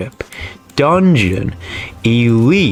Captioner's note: inhales Oxygen